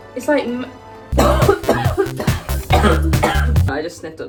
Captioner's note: coughing